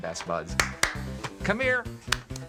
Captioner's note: claps